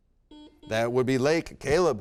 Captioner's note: buzzer beep